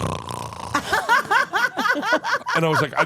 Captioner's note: laugh